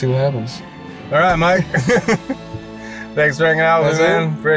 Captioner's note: laughs